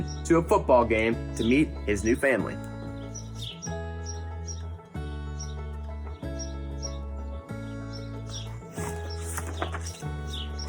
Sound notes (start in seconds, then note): 3.1 birds chirp; 3.1 upbeat music